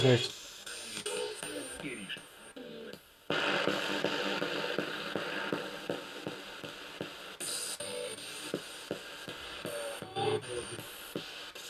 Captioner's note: sound of the Spirit Box in the background